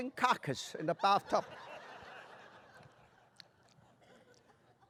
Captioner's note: laughter